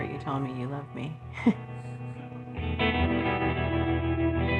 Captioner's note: chuckles